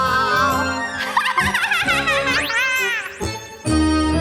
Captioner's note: chuckling